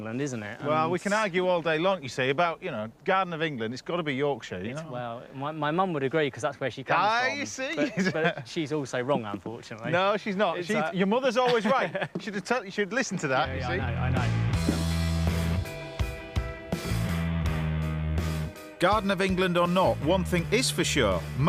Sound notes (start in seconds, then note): 7.6 laughing; 15.6 mellow upbeat music